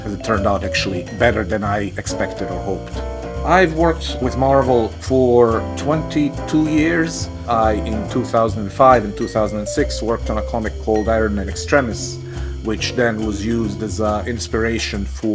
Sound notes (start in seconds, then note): none